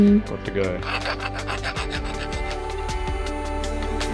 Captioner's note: file grinding; dremel whirring